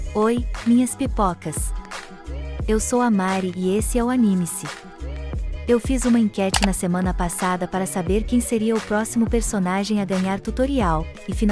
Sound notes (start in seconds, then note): 6.5 click sound